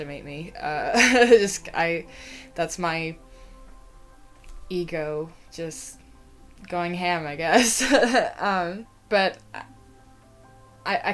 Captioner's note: laughter